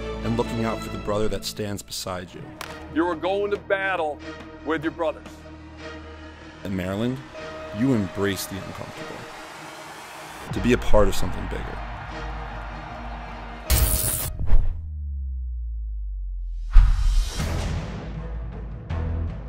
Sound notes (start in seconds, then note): 13.7 electric shock; 16.4 dramatic music